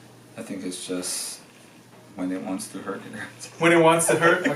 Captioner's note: laughs